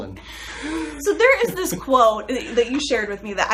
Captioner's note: laughs